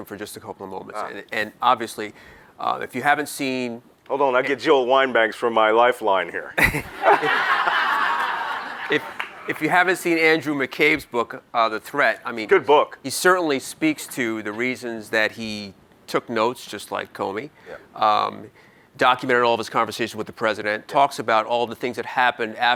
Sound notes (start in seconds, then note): 6.6 audience laughs